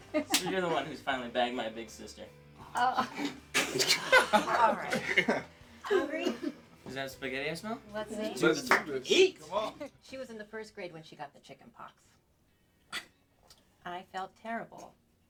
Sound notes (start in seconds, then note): 2.6 laughing